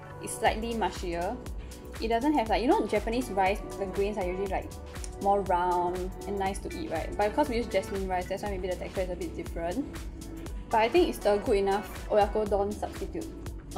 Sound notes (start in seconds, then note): none